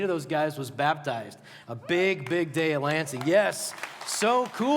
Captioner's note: applause